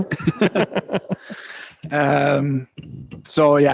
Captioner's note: laughing